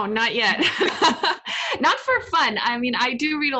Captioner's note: laughs